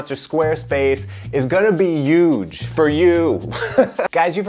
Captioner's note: laughs